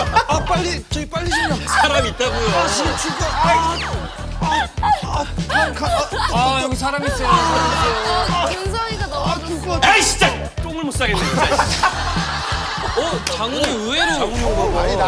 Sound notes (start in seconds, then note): 3.8 falls laughing